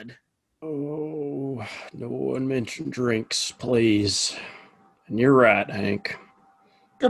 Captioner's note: groaning